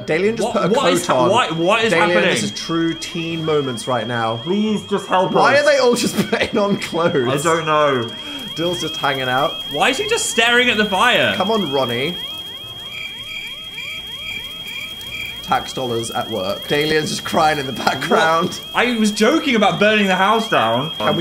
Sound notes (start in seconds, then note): 12.3 crickets chirping